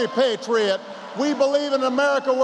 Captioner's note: applause